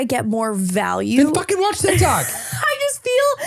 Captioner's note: laughs